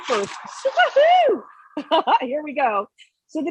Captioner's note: laughing